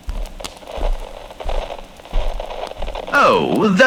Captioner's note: walking on carpet fx